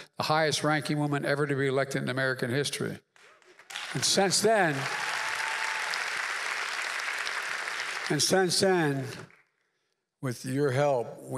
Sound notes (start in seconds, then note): 6.6 applause